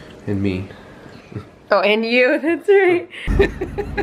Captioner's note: laughs